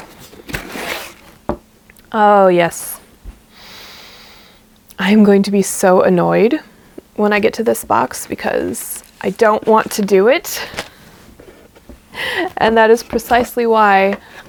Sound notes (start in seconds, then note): 3.5 deep breath; 12.2 laughs softly